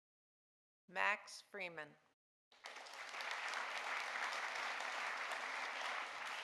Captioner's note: audience applauding